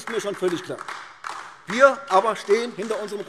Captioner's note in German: Beifall AfD